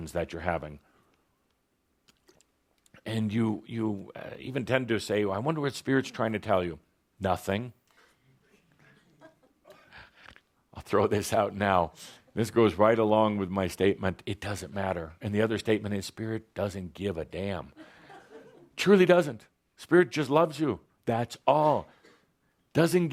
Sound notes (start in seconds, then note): 17.7 laughter